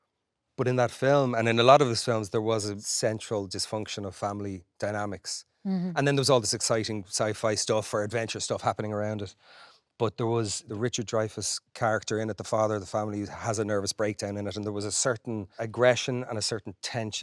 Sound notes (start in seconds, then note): none